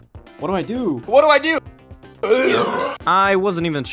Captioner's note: burp